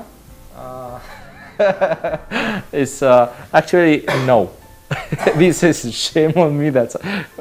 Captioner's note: laughing